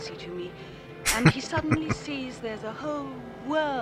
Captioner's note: chuckling